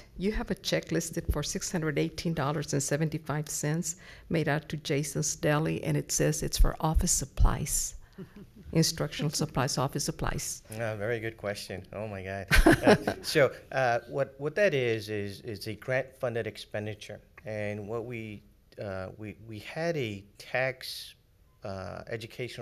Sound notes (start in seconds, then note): 12.5 laughs